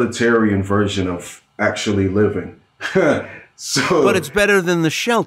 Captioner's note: laughing